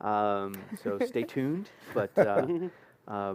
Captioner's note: laughter